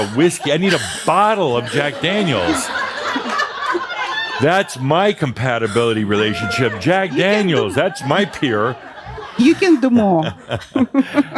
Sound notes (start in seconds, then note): 2.7 more laughter; 9.1 she chuckles